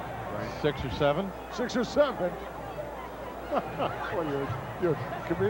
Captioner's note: chuckles